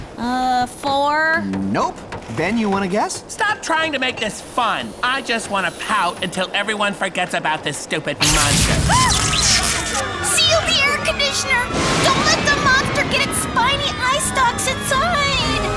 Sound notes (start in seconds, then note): 8.2 electricity fizzes